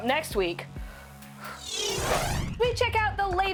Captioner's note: sighs